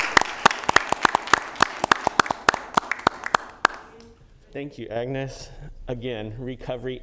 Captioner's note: applause